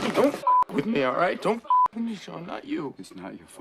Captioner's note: beep